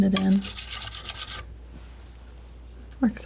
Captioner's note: scratching